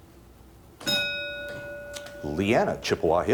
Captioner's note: bell dings